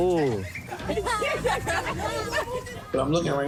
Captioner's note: neighbors laughing